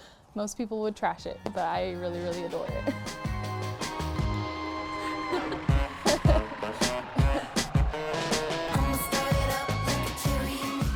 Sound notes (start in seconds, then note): 3.7 funky music; 4.9 laughs